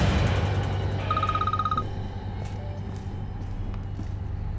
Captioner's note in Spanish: suena el celular